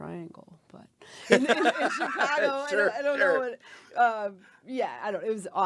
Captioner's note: laughing